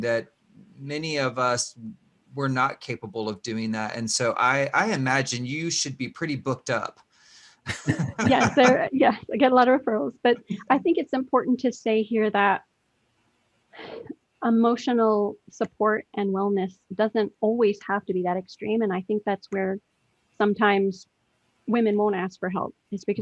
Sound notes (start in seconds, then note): 7.6 all laugh